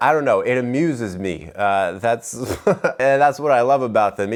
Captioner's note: laughs